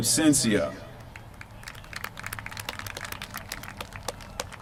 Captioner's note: applause